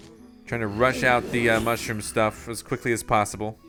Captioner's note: voiceover